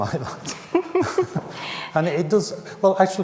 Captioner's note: both laughing